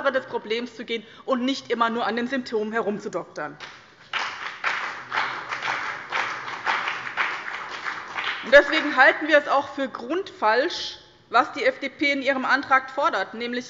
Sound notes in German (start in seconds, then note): 3.6 Beifall bei dem BÜNDNIS 90/DIE GRÜNEN und der CDU